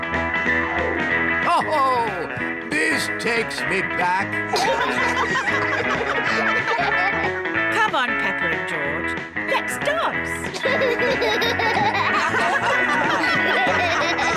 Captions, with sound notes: Oh! This takes me back. (ALL GIGGLE) -Come on, Peppa and George, let's dance. -(ALL LAUGH)